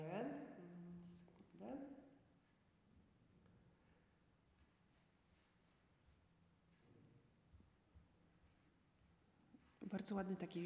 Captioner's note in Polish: cisza